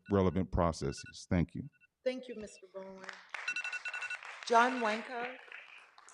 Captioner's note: clapping